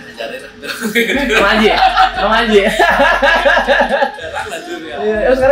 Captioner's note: laughs